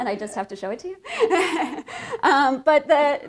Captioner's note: laughter